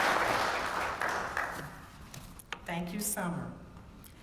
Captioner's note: applause